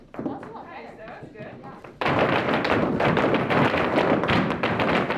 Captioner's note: floorboard clanking